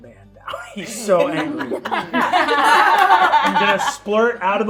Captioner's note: laughing